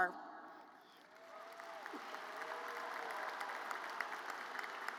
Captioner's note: audience applauds